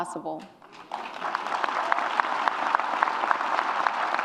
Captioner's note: audience applauds